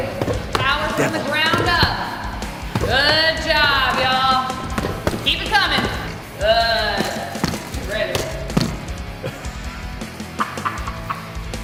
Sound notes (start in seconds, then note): 10.2 laughing